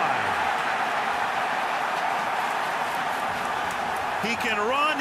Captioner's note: cheering